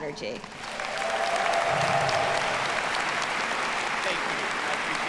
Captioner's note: audience applauding